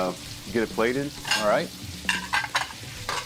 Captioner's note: dishes clanking